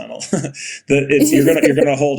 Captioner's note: Bode laughing